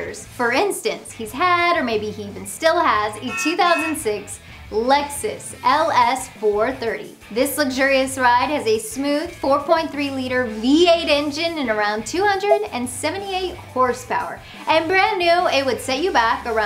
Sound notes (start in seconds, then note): 3.2 Lexus honking